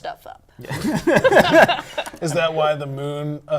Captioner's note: laughter